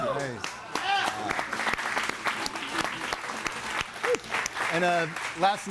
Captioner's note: audience applauding